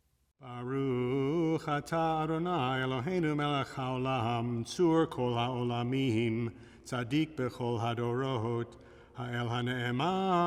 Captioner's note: chanting